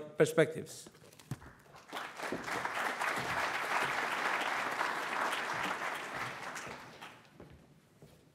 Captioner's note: audience applauds